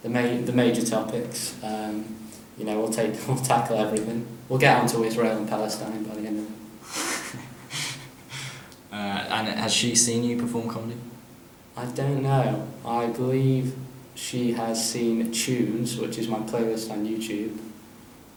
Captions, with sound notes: The major topics, erm... You know, we'll tackle everything. We'll get onto Israel and Palestine by the end of it. [chuckles] Er, and has she seen you perform comedy? I don't know. I believe she has seen "Tunes", which is my playlist on YouTube.